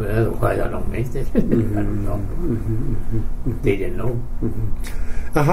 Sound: chuckles

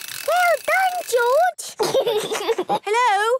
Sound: giggles

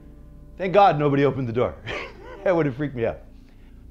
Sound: laughing

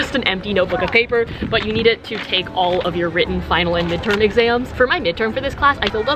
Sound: shudders

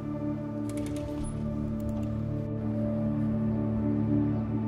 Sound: crane grinding

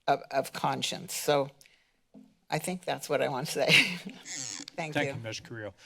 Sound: laughs

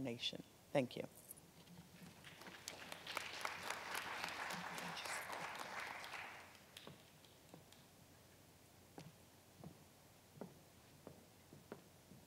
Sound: applause from audience

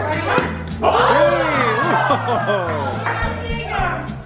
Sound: group yells

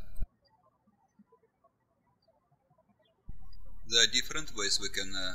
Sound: bird chirping

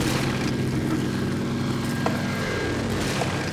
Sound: airplane sounds

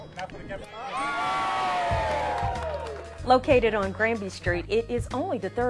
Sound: cheers and applause

